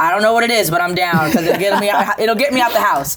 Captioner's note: laughing